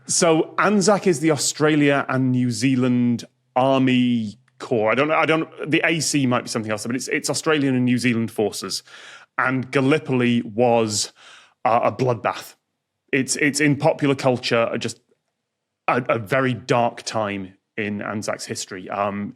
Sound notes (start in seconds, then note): none